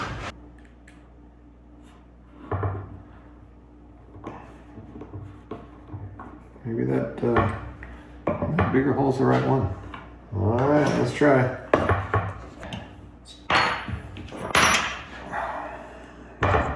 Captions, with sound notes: Maybe that bigger hole's the right one. All right, let's try. (metal clanking)